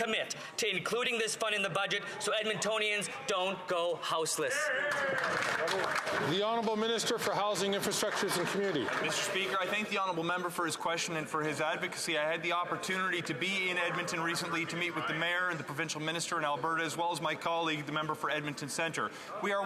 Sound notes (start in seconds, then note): 9.7 some Applause